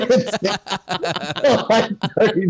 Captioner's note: everyone Laughs